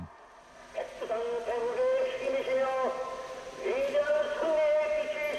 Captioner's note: speaking foreign language